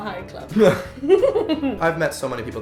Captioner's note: laughing